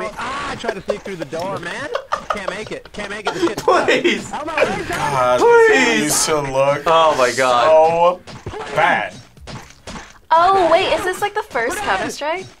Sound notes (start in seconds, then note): 3.7 laughs